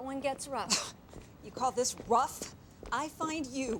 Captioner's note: scoffs